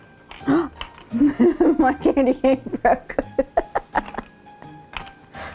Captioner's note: laughing